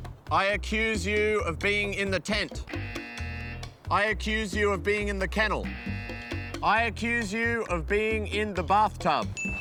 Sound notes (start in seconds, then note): 2.7 buzzer; 5.6 buzzer; 9.4 ding!